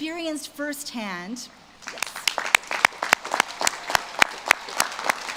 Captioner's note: audience claps